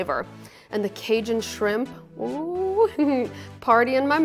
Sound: laughs

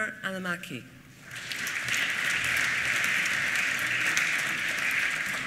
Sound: applause

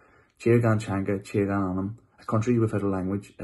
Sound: speaking in foreign language

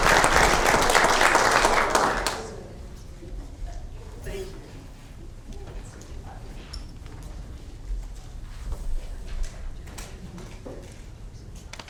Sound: applause

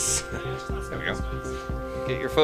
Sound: laughs

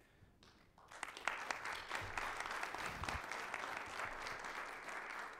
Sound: audience applauds

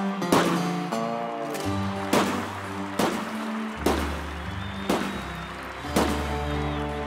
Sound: gunshots, crowd cheering

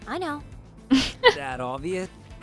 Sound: laugh

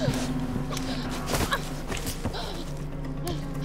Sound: Allison gasps; Allison grunting

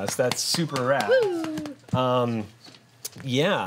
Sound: group cheers and applauds

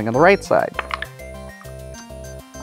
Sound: dice clattering

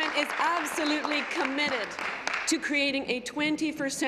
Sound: applause

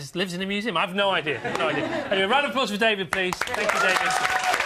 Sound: applause

